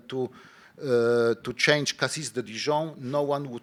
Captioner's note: speaking in foreign language